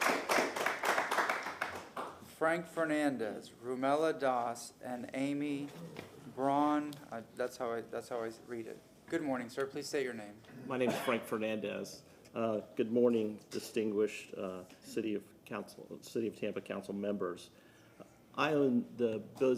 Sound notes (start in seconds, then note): 3.0 applause